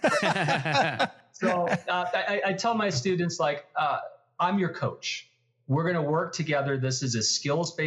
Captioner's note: laugh